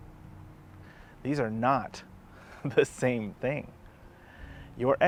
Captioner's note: chuckles